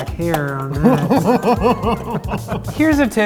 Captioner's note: laughing